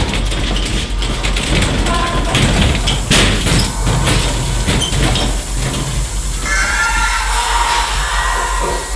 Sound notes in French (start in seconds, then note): 1.9 Chuintement de gaz; 6.4 Cris de douleur des zombies